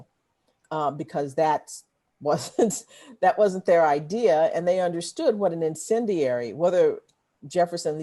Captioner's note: laughter